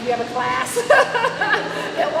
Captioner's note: laughing